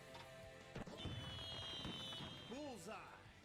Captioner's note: fireworks popping